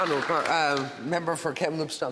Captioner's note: applause